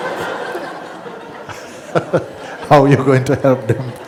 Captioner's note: laughter; laughs